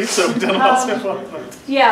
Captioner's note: laughs